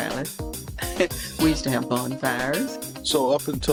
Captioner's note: chuckles